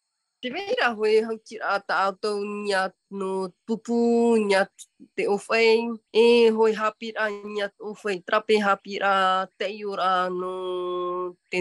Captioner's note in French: et sa mère parlent paumotu